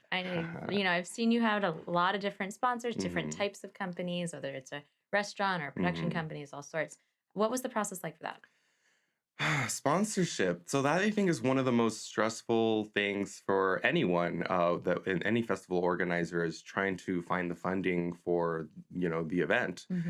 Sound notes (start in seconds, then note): 9.4 sighs